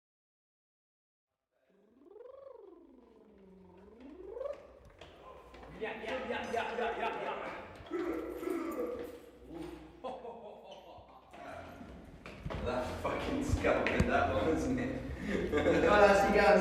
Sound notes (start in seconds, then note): 1.9 man blows raspberries; 15.6 laughs